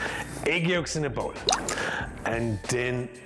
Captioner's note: yolk plops